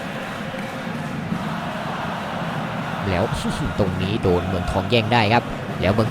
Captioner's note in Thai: ปรบมือ